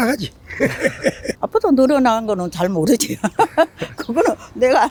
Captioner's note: laughs